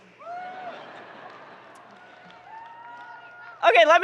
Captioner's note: people laughing